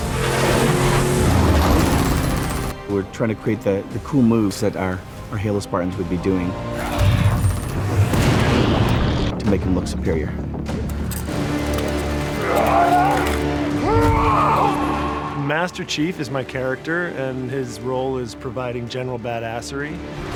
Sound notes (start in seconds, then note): 0.0 vehicles roaring; 13.8 Master Chief screams